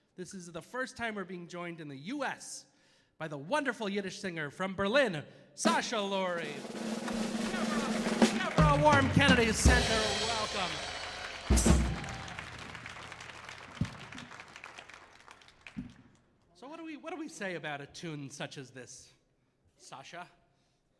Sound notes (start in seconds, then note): 6.8 audience applauding; 6.9 energetic music